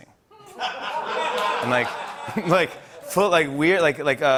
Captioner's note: laughter